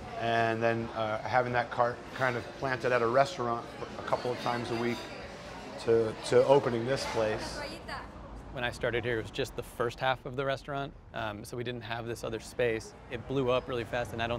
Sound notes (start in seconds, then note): none